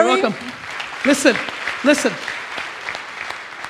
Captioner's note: audience applauds